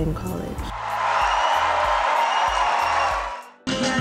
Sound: crowd cheering

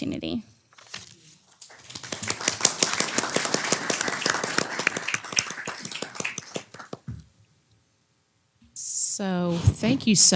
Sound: applause

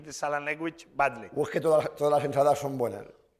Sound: speaking spanish

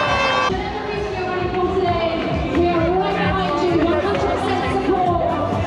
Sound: crowd cheering; background announcements

